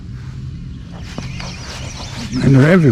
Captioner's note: reel tightening